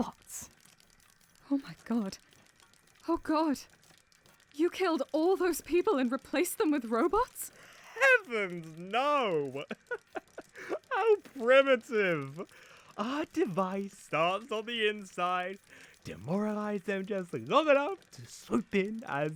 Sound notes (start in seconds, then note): 9.3 laughs